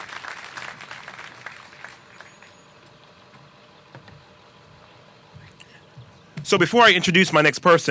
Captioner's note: applause